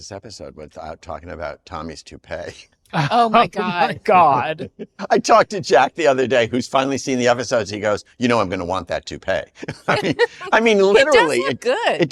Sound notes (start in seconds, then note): 9.5 laughs